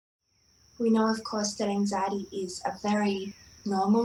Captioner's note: SFX: insects buzzing, birds chirping